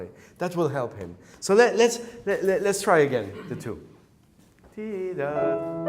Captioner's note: hums